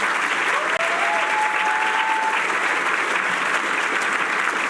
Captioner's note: applause